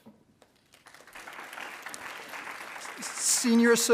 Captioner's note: attendees applauding